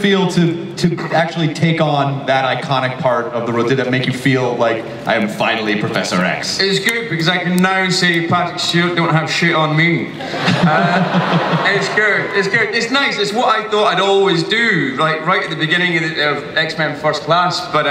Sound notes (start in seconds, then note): 10.1 audience laughs; 10.2 Chris laughs